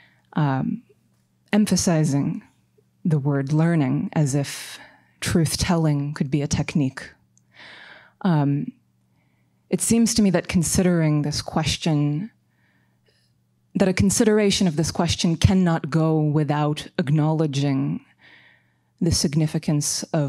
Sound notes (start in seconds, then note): none